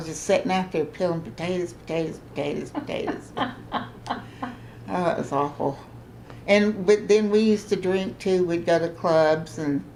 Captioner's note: laughter